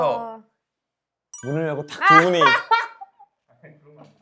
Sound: laughs

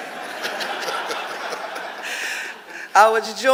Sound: audience laughing

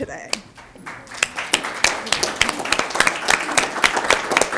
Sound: attendees applauding

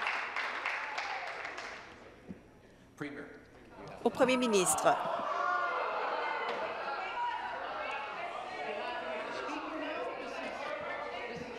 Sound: applause

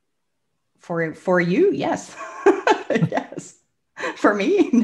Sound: laughs

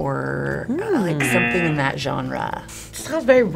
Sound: buzzer razzing

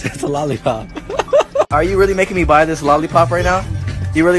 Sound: laughs

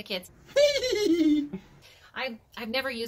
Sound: cackling

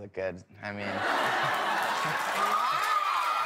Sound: audience laughs

